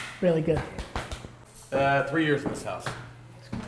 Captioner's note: hands smacking